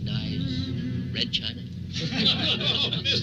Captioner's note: group laughing; laughing